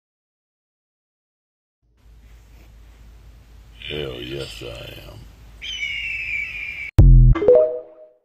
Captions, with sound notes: Hell yes I am *eagle noise*